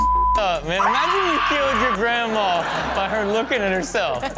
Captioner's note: beep